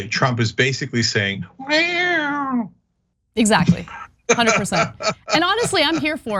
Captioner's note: laugh